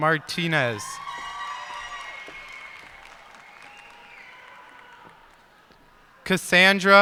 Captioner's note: cheers and applause